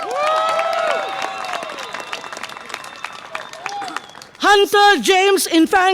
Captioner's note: audience applause and cheer